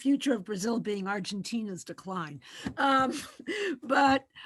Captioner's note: giggles